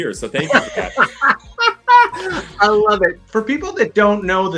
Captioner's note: laughter